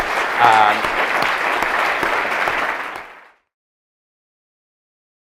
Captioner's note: audience applause